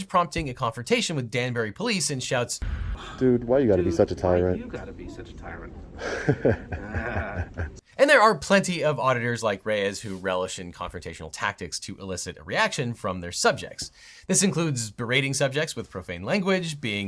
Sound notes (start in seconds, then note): 6.0 chuckles; 6.0 police office chuckles